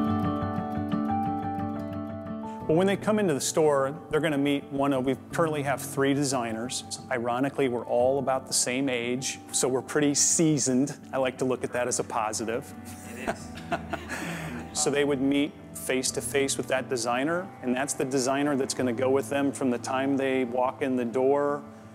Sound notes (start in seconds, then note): 12.9 laughs